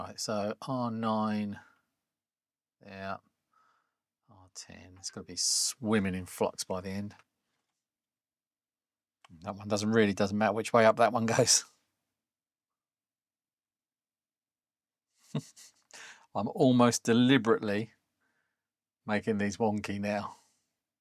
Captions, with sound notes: Right, so R9, out, R10. It's gotta be swimming in flux by the end. That one doesn't really, doesn't matter which way up that one goes. (Chuckles) I'm almost deliberately making these wonky now.